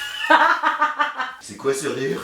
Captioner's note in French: rires